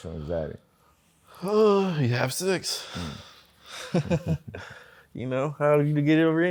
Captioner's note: sighs; laughs